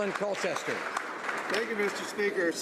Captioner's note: some Applause